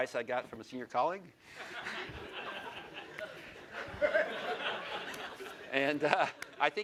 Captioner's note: laughter